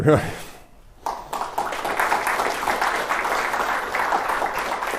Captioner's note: applause